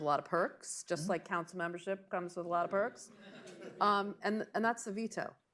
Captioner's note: laughter